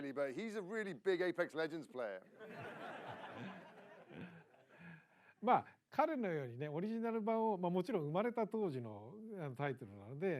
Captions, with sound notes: But he's a really big Apex Legends player [LAUGHTER]